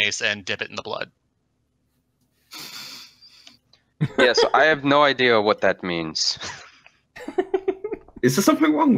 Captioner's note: laughter